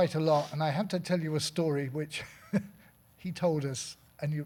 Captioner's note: laughing